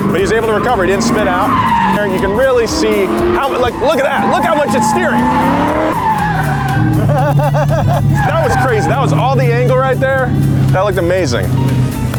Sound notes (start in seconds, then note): 5.3 car engine revving